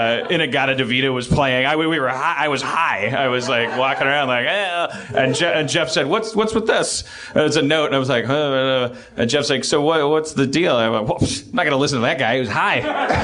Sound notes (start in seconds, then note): 4.6 stoned-sounding noise; 11.1 stammers